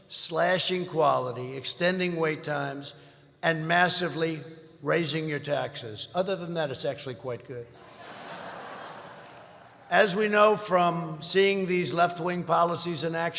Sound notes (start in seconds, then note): 7.8 laughter